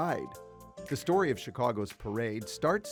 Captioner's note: none